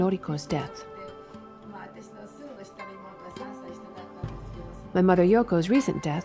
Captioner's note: speaking in foreign language